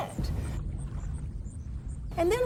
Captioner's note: cinematic hit